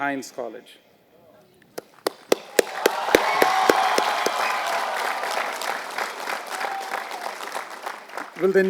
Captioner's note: applause